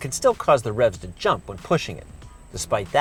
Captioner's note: ? revs ?